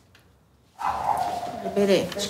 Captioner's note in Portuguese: cachorro latindo ao fundo